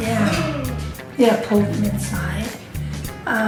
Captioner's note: gasps offscreen